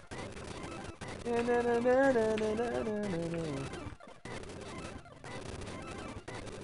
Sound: humming

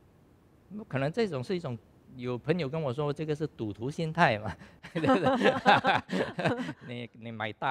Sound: laughs

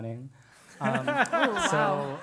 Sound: laugh

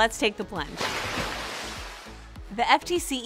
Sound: water splashing

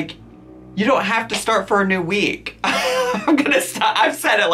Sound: laughs

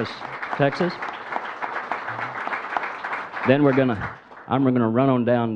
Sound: audience applauds

